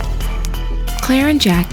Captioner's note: footsteps